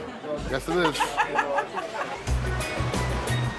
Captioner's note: laughs